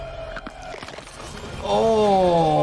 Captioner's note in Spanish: crujido de huesos